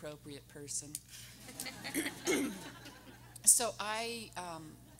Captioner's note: everyone laughing; clears throat